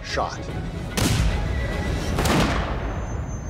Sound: gunshots

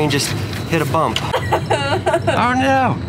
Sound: laughs

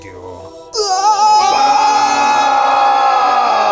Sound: screaming

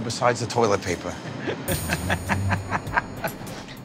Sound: laughs

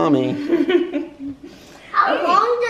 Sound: laughter

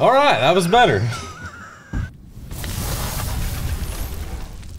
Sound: laughter

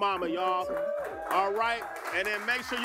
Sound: cheering and applause

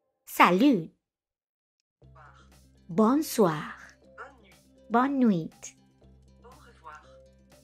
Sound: speaks French, as she promised

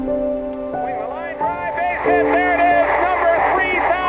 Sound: voiceover

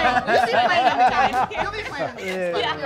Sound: laughs

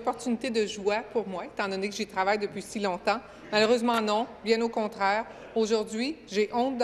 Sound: speaking in French

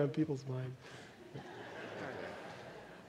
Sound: laughter

